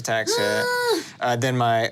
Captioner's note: screams